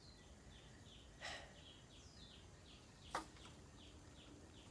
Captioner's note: sighs